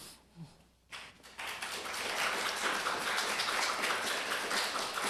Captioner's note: applause